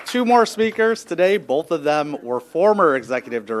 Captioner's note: applause